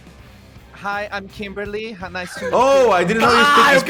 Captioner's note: in English